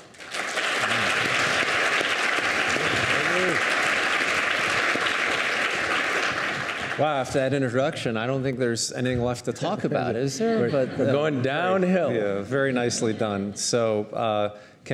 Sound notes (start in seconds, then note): 0.0 audience applauding; 3.5 speaking faintly